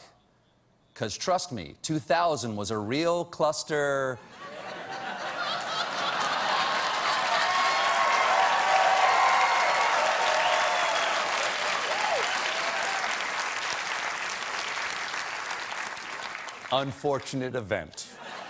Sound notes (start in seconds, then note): 5.8 laughter; 5.8 applause